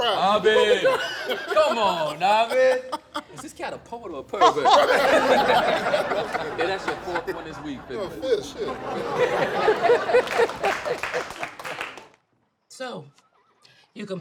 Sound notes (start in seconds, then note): 1.3 laughs; 5.5 laughter